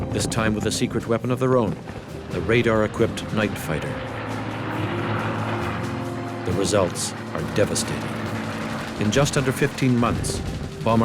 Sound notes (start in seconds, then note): 5.0 jet engine roaring